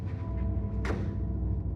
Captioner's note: door slams shut